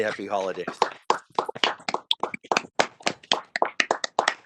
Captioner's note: applauding